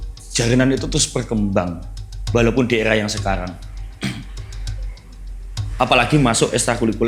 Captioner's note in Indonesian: berdehem